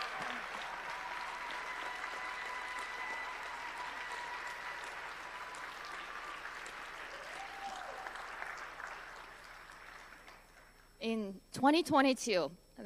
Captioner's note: applause